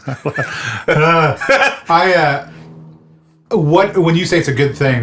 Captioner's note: laughs